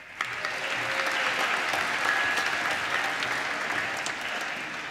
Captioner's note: applause